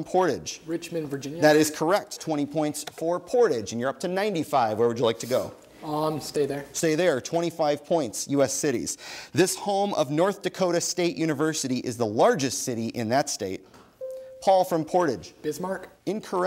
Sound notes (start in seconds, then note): 14.0 bell dings